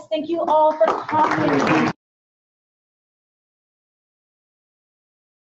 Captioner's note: participants applauding